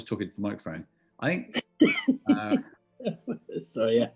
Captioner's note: laughing